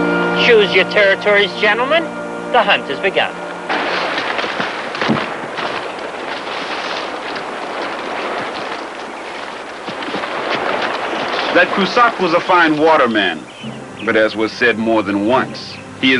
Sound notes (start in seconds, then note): 3.6 boots stomping